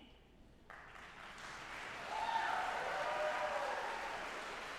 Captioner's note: audience applauding